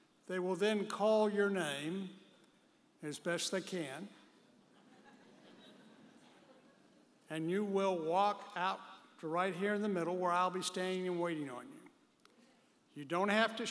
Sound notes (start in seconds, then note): 5.2 audience member chuckles